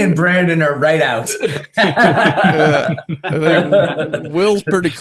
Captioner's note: all laughing